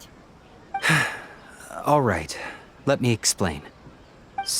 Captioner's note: sigh